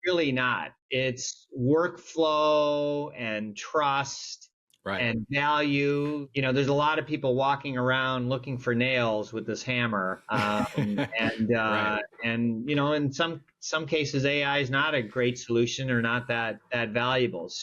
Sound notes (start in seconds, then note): 10.3 laughs